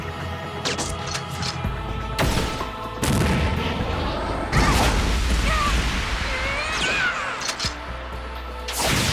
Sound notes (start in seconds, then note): 4.5 explodes; 5.3 yells